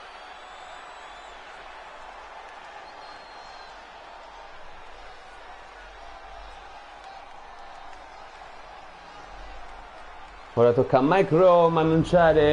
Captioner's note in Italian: Applauso